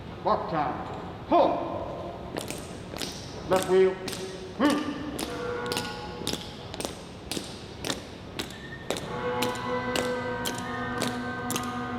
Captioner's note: marching begins again